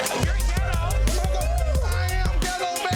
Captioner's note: people oohing